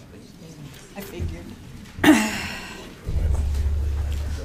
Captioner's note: woman's Voice; overlapping muttering